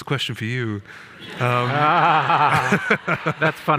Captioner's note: people laughing